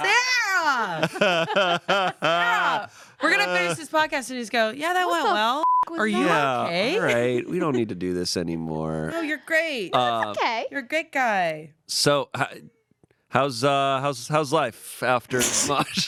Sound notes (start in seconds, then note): 5.6 beep